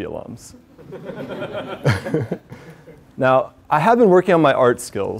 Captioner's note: laugh